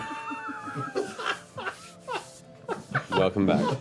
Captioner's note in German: Gelächter